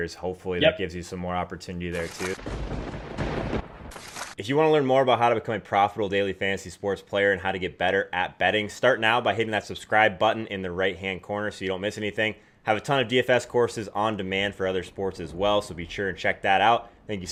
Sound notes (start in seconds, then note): 2.0 lightning theme sound